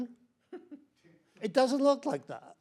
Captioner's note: panelist chuckles